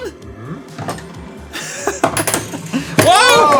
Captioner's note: laugh